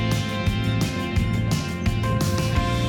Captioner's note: none